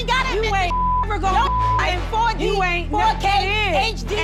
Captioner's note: beep; both yelling at once